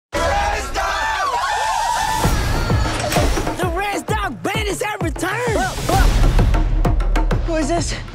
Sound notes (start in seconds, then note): 0.2 cheers